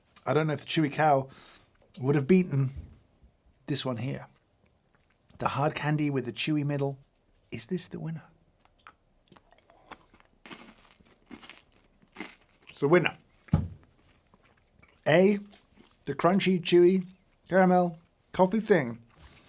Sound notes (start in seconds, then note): 9.2 candy crunching